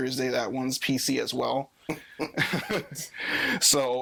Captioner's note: all laughing